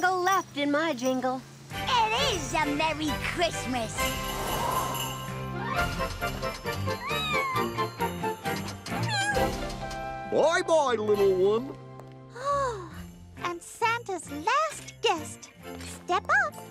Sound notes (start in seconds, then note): 8.8 mews; 8.9 cat mews